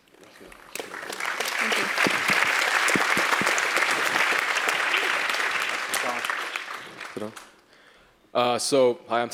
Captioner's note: applause